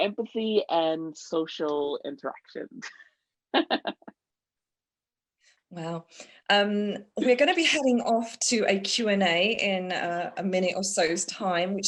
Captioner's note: laughs